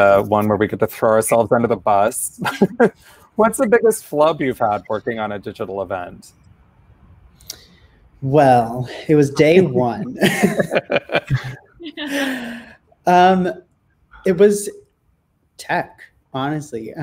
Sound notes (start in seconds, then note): 9.4 all laugh